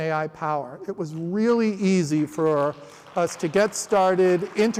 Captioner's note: applause